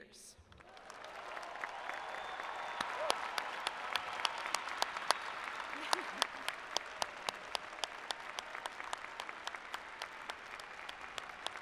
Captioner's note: cheering and Applause